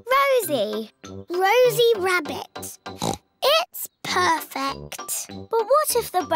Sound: oinks

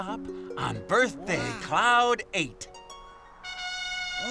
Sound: horn blows

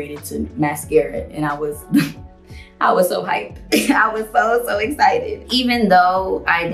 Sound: laughs

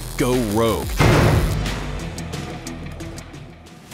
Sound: thudding

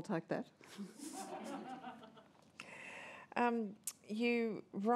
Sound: laughter

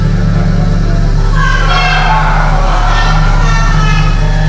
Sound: voices turn to harsh echos

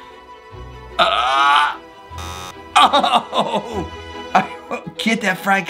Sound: buzzer buzzing

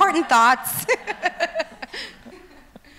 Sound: laughs

